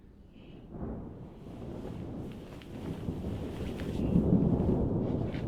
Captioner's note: thunder crashing